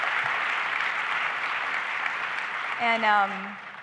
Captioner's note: applause